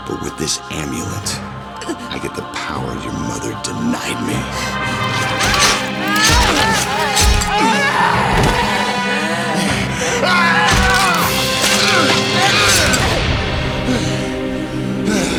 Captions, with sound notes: But with this amulet, I get the power your mother denied me. (Mindy screaming) (knife slashing) (Mindy's dad growling) (knife slashing)